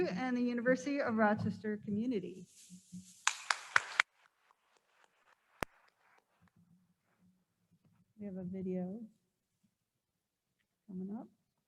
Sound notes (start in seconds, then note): 3.2 attendees applauding